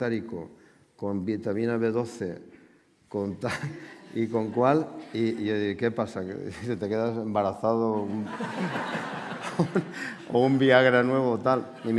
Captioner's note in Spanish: Risas